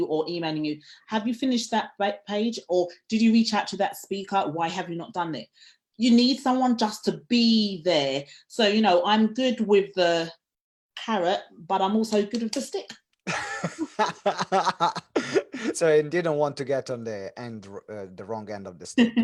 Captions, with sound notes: or emailing you, Have you finished that page? Or, Did you reach out to that speaker? Why have you not done it? You need someone just to be there. So, you know, I'm good with the carrot, but I'm also good with the stick. - (laughs loudly) So you didn't want to get on the wrong end of the stick.